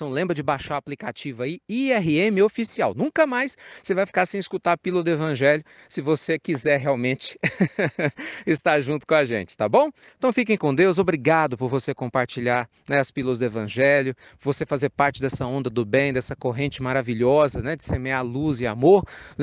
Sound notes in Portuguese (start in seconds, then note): 7.4 risadas